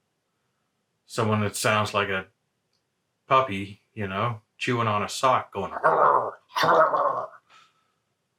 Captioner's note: guttural noises